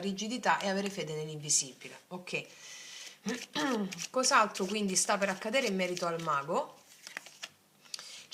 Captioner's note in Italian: schiarire la voce